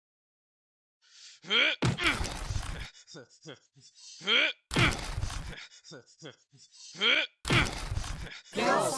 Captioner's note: Sock grunts in exertion